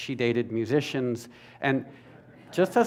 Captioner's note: laughter